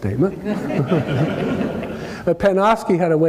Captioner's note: laugh